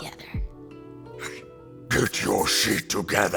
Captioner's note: teeth chomp; scary voice